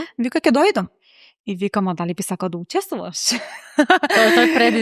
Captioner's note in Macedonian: смеа